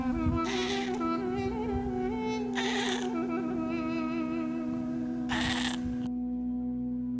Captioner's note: meow in Armenia; meow in Armenian